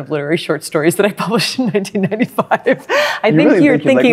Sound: laughs

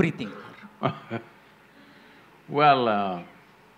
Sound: Sadhguru laughs

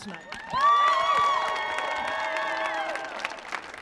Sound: cheering

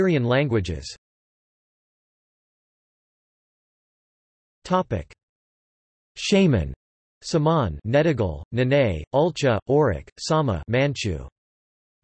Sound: manchu

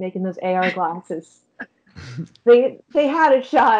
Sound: chuckling

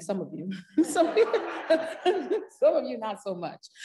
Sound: parents laughing

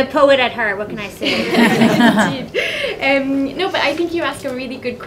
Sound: laughter

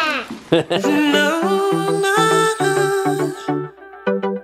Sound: laughs

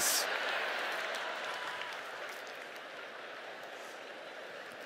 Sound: laughter

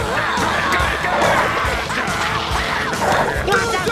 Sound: screaming

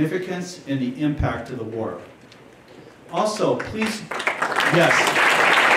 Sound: applause

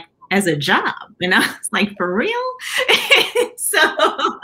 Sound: laughter

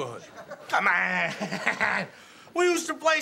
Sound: laughs

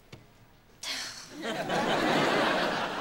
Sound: sighing

